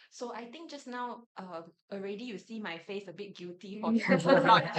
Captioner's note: everyone laughs